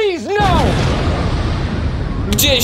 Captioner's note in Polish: boom!